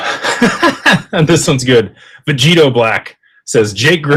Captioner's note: laughter